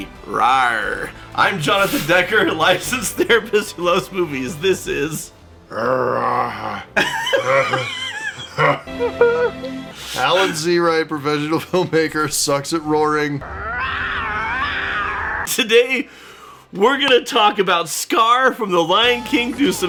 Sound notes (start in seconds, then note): 5.7 tries to roar; 13.4 technically a roar